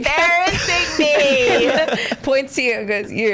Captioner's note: laughs